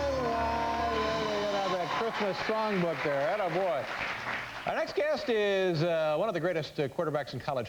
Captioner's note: cheers d applause